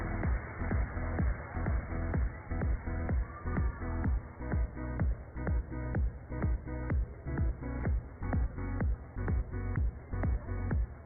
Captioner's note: cheers and applause